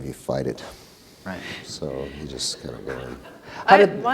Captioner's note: audience laughter